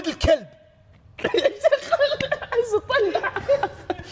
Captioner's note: laughs